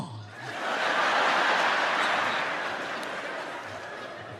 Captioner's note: audience laughs